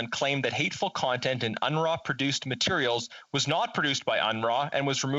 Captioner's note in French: voix de l'interprète